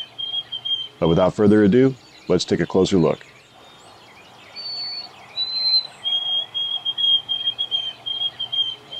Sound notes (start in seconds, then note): 4.4 nature sounds